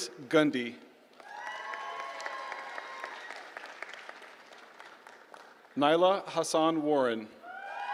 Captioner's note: applause